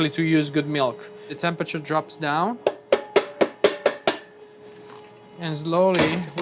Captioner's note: hand thudding